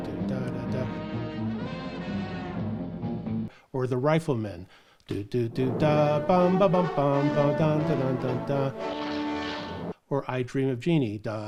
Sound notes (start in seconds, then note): 0.0 upbeat music; 5.2 humming; 7.4 upbeat music